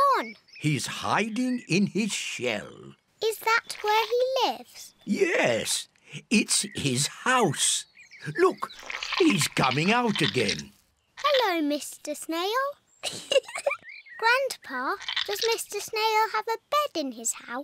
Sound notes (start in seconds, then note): 13.0 giggles